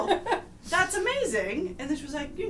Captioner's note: laughter